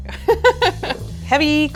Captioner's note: laughs